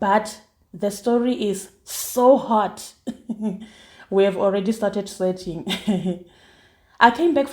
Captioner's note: giggles